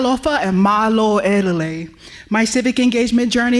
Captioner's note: speaking native language